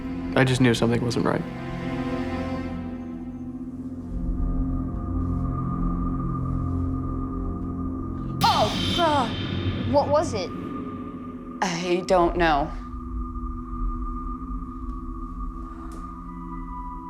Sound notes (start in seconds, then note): 0.0 ominous music; 8.4 startled shouting; 14.7 eerie music